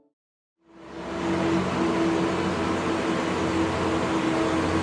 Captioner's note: machine whirring